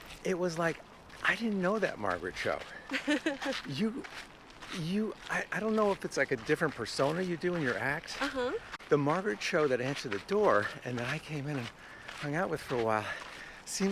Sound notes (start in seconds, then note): 2.8 Margaret laughing